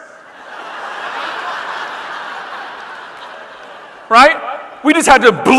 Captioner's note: audience laughing